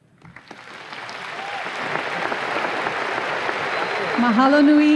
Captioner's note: audience applause